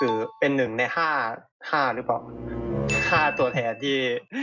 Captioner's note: laughs